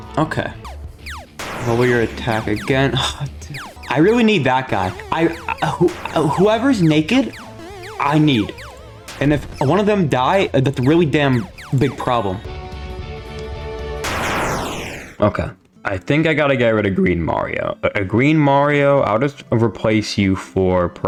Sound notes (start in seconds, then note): 1.3 Endo-0 Explodes; 14.0 Fredbear Explodes